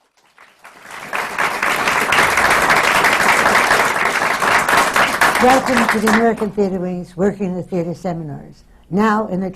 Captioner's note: applause